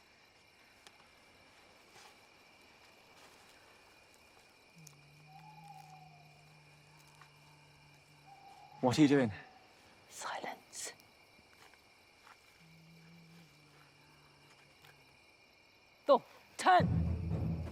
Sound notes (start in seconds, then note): 0.5 crickets chirping; 4.9 Salina hums softly; 12.6 Salina hums softly; 16.8 dramatic drumming music